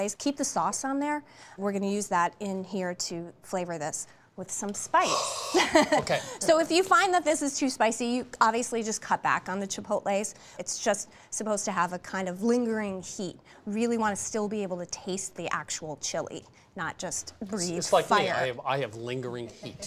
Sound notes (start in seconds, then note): 5.0 exhaling; 5.1 laughs